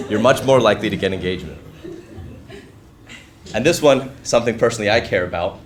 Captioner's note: laugh